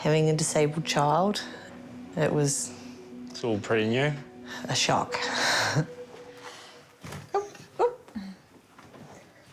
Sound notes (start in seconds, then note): 5.9 chuckles